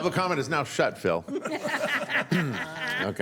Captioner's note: laughter